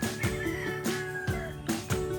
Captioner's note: rooster crowing